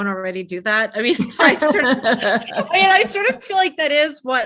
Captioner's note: participants laughing